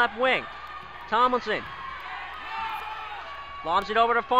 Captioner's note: crowd talking and yelling